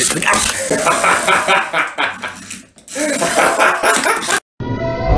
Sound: more evil cackling

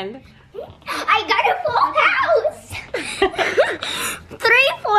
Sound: laughs

